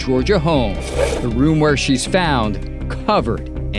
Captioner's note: slide scrapes